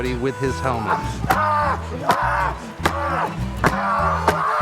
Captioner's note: grunting